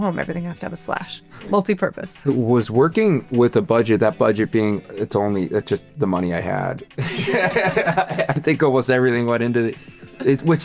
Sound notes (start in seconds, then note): 7.0 both laughing